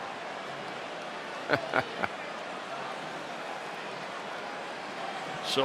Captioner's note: applause; laugh